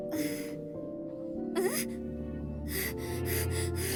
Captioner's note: panting